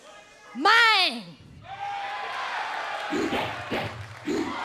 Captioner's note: crowd cheers; rap music plays